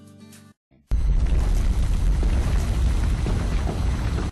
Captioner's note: triggered sound effect